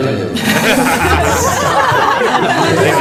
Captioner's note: choke